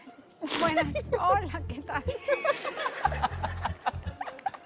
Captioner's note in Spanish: Risas